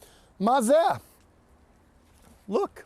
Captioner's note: speaking in Hebrew